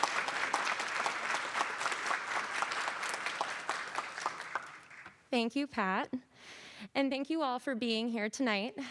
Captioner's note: applause